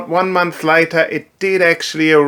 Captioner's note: none